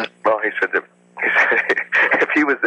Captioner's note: laughs